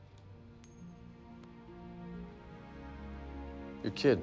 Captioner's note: coin tinkling